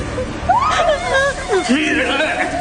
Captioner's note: sobbing